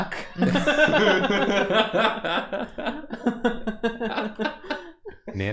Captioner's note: laughter